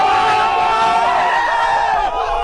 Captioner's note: screaming